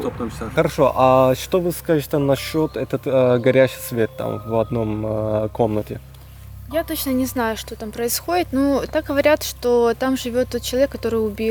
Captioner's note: russian conversations